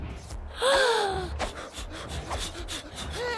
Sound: frantic puffing

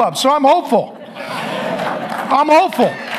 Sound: audience laughs

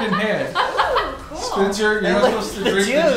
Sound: laughing

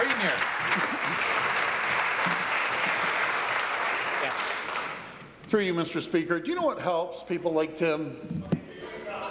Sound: applause

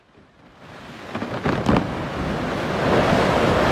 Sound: ice crumbling

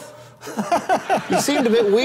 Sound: laughs

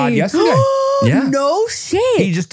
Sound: gasps

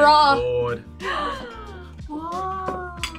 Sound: both gasp

